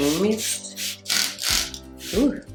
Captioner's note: water spraying sound effect